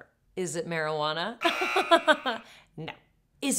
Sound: laughing; loud beep

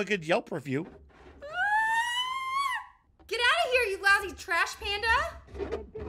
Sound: screams

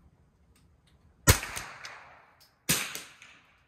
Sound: gun bangs

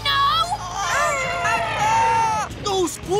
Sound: screaming

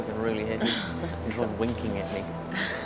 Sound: chuckles

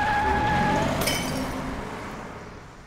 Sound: tires squeal, bottle breaks

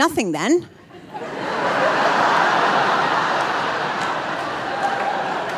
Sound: audience laughing

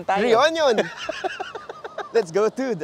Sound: laughs

